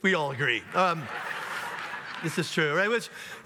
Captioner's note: audience laughs